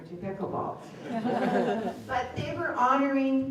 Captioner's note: laughter